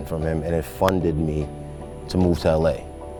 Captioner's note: hand claps